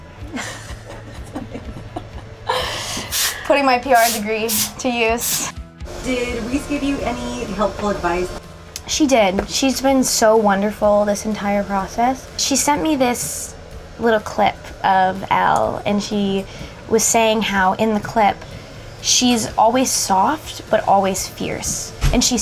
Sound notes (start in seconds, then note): 0.2 laughing; 3.9 bottle spraying